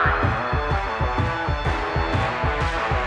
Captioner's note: siren blares; exciting music